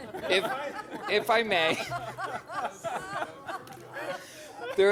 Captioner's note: laughter